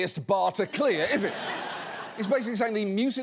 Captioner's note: studio audience laughing